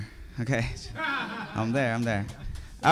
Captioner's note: laughing